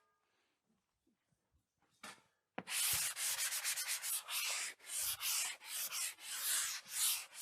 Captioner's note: sanding